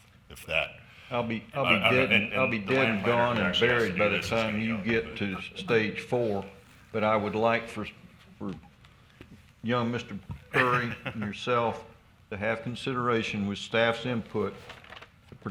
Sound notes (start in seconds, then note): 10.5 man chuckles